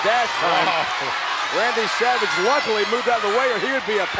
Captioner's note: laugh